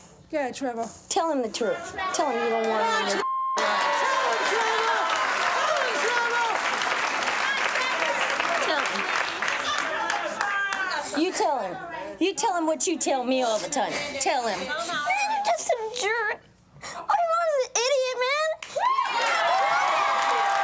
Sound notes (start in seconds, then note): 3.2 beep; 3.5 audience applauds